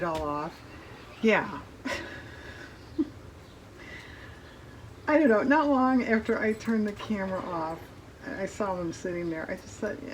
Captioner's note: laughs